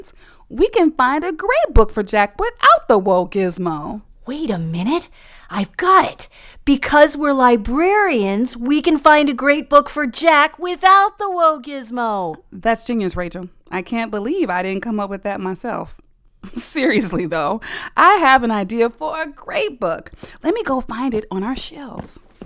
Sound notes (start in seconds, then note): 16.5 laughs; 20.0 sound of shifting through books